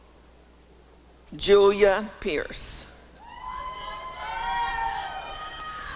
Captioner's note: applause and cheering